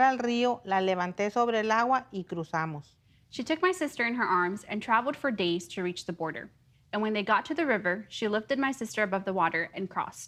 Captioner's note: speaking in native tongue